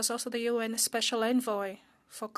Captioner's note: speaking French